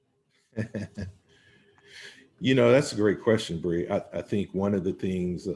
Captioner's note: laughing